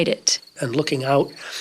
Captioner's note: crickets chirping